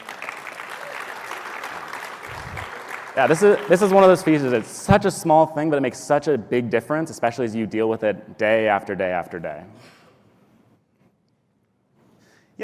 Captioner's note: applause